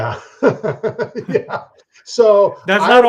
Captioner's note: chuckles